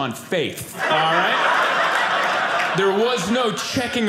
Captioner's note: audience laughing